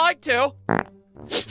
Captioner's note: sniffs; prrr!